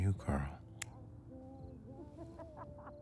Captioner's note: lighter clicking; people laughing outside